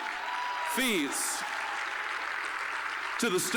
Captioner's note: applause, cheering